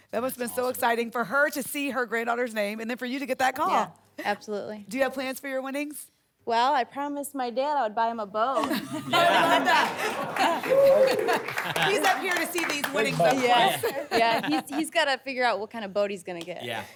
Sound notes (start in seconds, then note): 10.5 laughter, applause, cheering